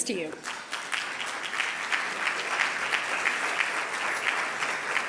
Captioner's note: audience applauding